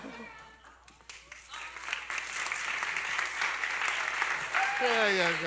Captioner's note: applause